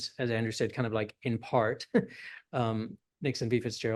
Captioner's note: laughs